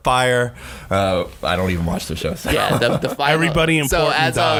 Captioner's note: laughing